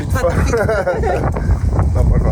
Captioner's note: laughs